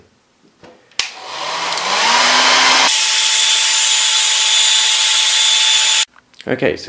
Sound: hairdryer blowing

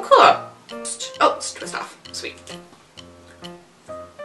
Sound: mutters to herself

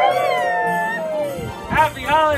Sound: cheering

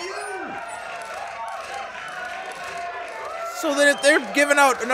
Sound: applause

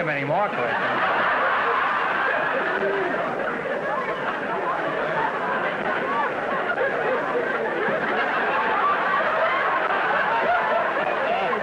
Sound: audience laughter

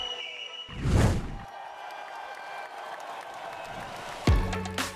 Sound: crowd cheering

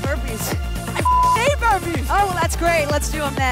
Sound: beep

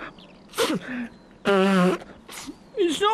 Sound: sobbing

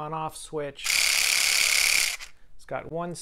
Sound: whirs

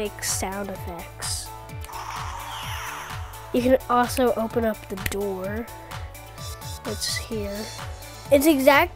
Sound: sound Of Laser Shooting

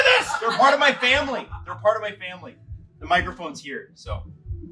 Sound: laughter

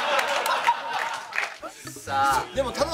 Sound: laughter

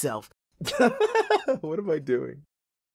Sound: laughs

